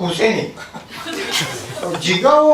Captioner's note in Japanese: 会場 笑い声